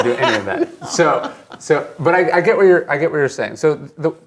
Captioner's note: laughs